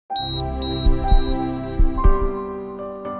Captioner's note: heart monitor beeping; gentle piano music